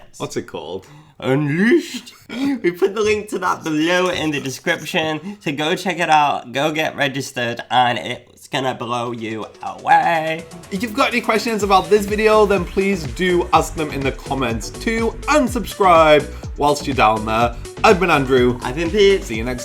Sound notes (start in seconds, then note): 2.1 chuckles; 3.6 pencil scratching